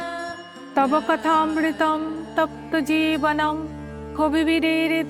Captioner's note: chanting